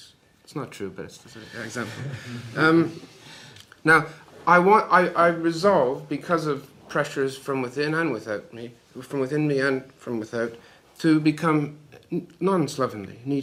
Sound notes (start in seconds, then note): 3.8 laughter